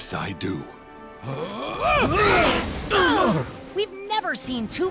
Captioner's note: grunting